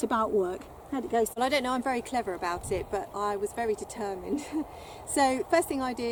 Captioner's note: laugh